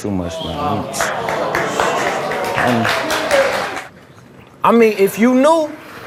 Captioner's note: audience applauds